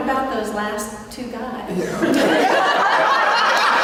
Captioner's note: laughter